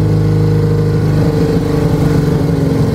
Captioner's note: engine burbles a bit as the speed slows again